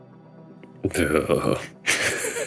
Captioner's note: audible discomfort